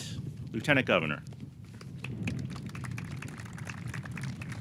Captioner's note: audience clapping